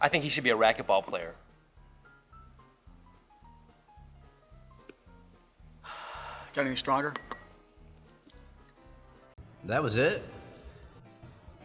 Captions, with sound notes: - I think he should be a racquetball player. - (sighs) Got anything stronger? - That was it?